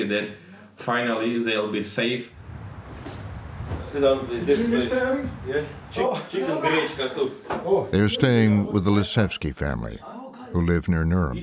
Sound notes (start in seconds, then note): 3.8 conversing